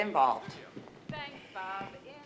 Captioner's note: on TV